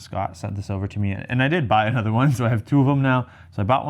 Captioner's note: chuckles